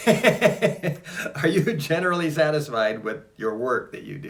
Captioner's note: laughs